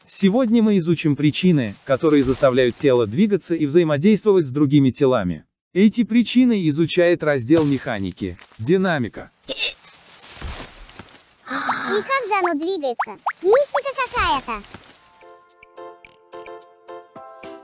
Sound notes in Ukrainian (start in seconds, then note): 9.5 Ікає